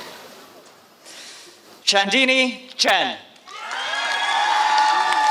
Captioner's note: applause